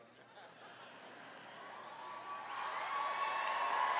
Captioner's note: applause